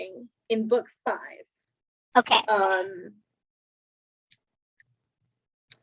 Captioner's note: long pause